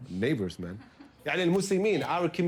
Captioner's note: non-english speech